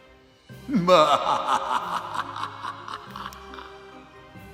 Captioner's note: spooky laughter